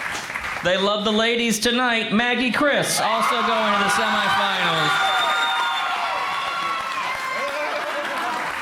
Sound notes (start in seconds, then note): 3.0 crowd roars